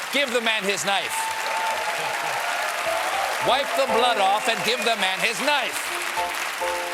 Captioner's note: applause